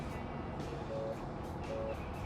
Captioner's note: phone ringing